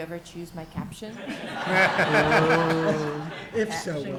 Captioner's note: audience laughs